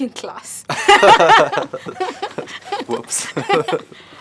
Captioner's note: laughs